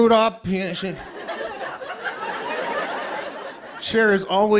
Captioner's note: laughter